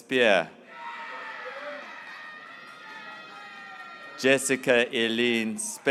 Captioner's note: graduates cheering